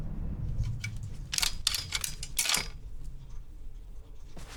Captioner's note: hangers rattling